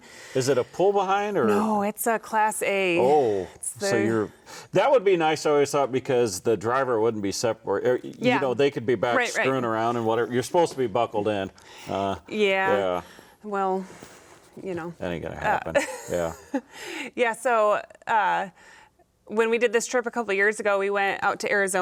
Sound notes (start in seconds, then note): 15.7 chuckling